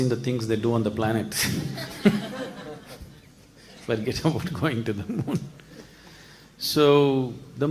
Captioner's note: laughs